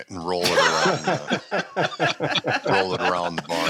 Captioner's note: laughter